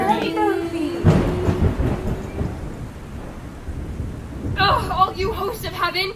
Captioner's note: thunder rumbling